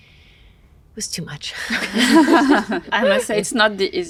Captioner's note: all chuckle